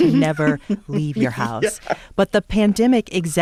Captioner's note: laughter